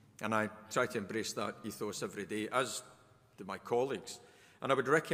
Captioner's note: none